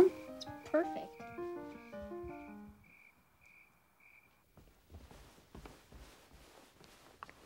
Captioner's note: classical piano music; crickets chirping